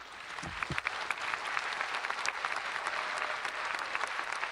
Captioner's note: audience applauding